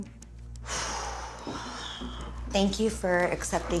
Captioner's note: sighs